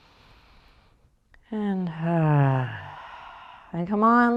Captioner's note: sighs